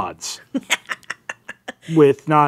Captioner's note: laughing